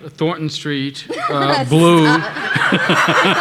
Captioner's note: laughing; everybody laughing